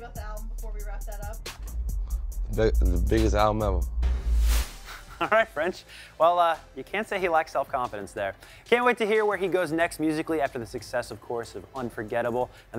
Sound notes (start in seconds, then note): 4.9 laughs